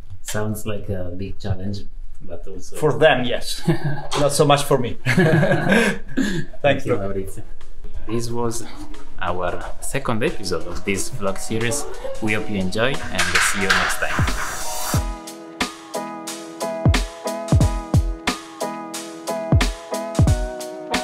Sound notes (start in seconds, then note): 5.0 laughter